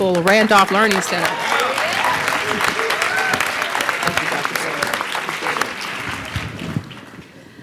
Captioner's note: applause